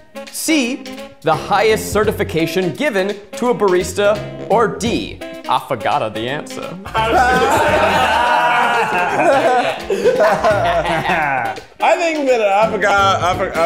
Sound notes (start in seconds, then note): 6.8 all laugh heartily